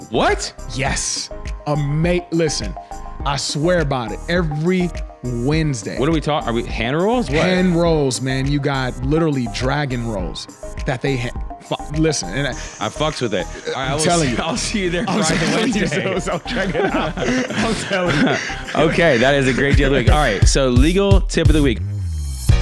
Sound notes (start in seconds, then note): 15.3 men laughing